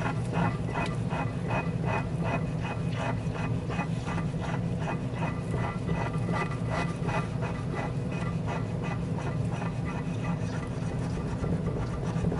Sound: scrubbing sounds

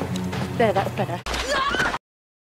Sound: gwen screams

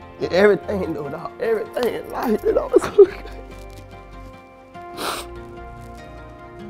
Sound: sobs

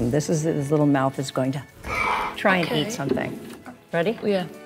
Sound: clicker snarls

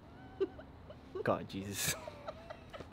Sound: woman giggles

